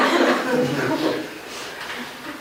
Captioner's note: laughter